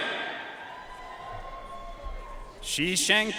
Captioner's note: audience cheering and applauding